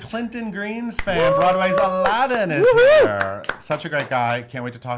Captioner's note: cheering and clapping